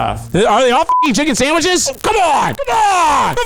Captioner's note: beep